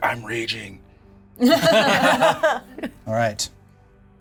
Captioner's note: players laughing